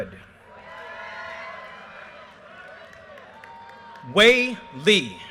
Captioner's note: audience cheers and applause